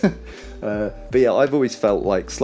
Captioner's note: laughs